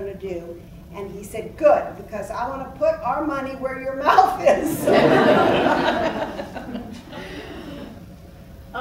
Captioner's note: laughs